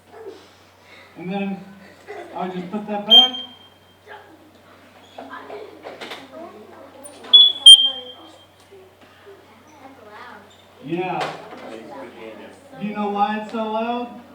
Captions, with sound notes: And then I just put that back. (suit beeps) (suit beeps) - That's loud. - Yeah. Do you know why it's so loud?